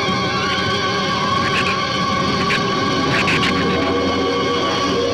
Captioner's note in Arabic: ثرثرة الزبابة